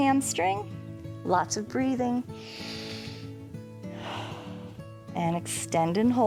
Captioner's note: inhales and exhales